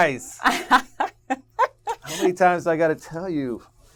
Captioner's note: laugh